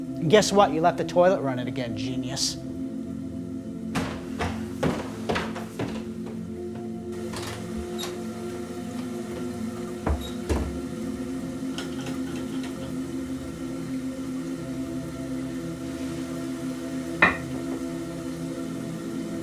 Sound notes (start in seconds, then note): 3.7 sound of running toilet